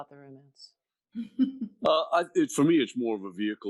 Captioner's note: laughing